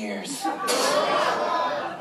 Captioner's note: spitting